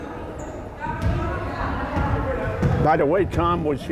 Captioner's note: crowd chattering